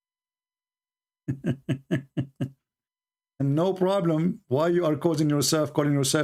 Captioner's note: Ketawa